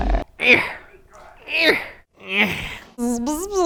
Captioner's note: grunting